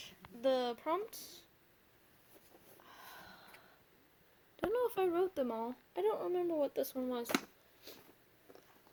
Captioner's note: sigh